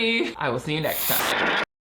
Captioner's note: static crackles